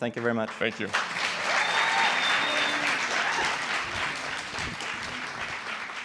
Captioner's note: applause